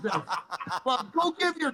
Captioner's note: laughter